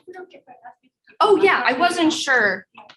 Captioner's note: people chattering